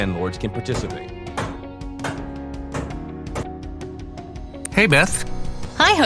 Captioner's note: hammer knocking